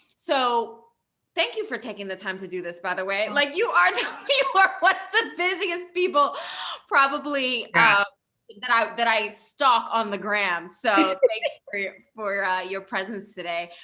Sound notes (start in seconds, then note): 4.1 laughing